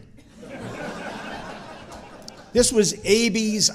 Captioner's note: audience chuckling